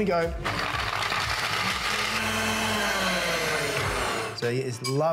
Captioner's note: blender whirring